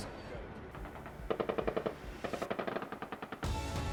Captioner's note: gunfire